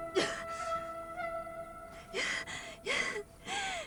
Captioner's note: crying